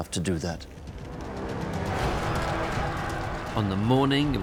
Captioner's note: yelling